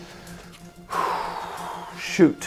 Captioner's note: exhales